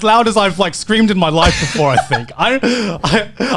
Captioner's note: laughs; giggles